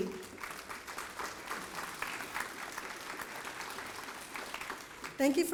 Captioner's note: applause